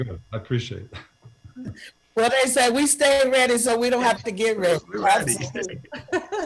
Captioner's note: laughter